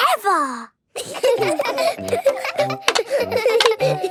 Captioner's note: laughter